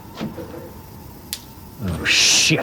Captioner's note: clicking